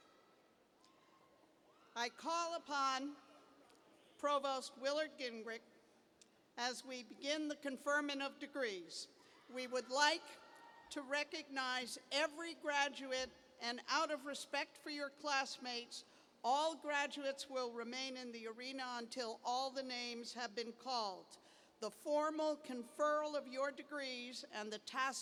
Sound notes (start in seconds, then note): 8.1 cheers